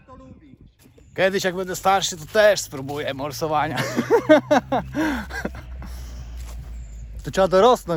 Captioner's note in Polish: śmiech